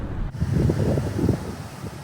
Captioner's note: wind